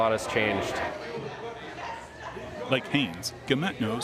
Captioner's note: volunteers chattering